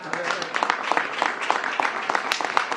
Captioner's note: applause